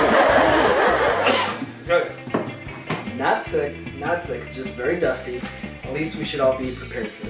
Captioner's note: cough